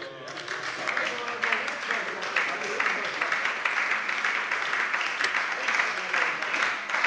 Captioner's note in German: Anhaltender Beifall bei der SPD